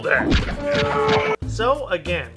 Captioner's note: war Horns and disgruntled yell